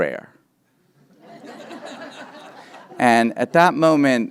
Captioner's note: members of the audience laughing